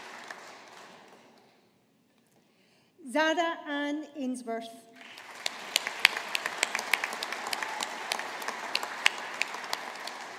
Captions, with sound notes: Zara Anne Ainsworth. (AUDIENCE APPLAUDING)